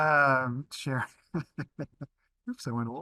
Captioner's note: laughs